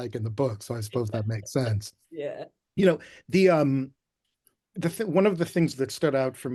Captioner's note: laughing